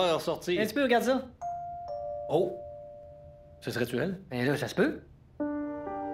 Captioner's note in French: Sonnette de porte